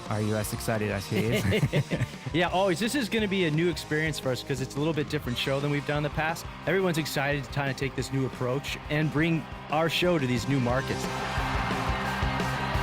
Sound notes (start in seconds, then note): 1.1 laughs; 12.5 rock music